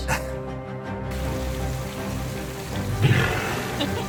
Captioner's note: chuckles; background music; water running/splashing sounds; background music; walrus vocalizes; laughs